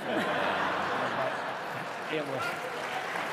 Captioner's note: laughter